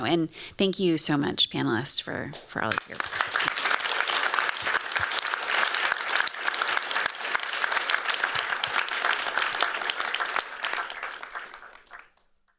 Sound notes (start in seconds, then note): 2.8 applause